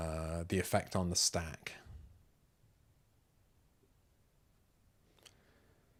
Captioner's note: silence